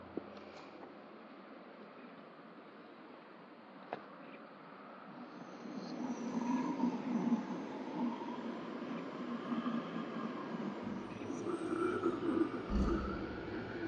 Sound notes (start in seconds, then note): 10.3 low snarling